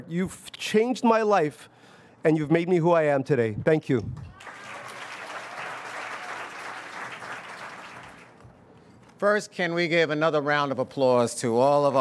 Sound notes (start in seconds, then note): 4.3 audience applauds